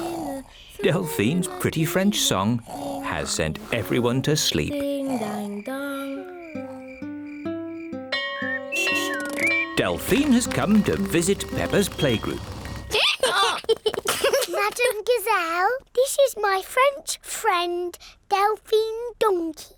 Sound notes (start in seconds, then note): 8.1 bell rings; 12.7 brays; 12.8 both giggle